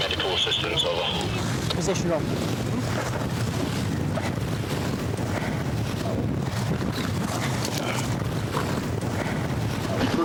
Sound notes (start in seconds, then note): 3.6 lifeboat engine whirring; 7.6 water splashing